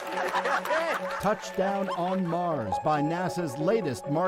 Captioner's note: applause